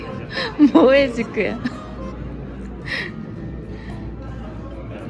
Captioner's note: laughing